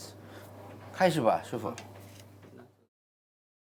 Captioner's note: speaking Chinese